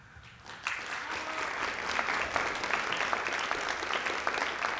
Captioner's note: applause